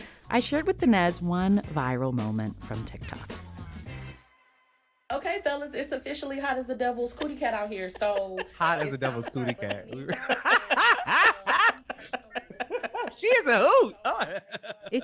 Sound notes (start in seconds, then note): 3.1 soundbite of archived recording; 6.9 laughter